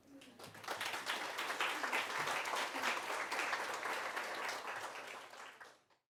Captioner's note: applause